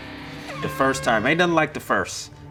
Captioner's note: horn honks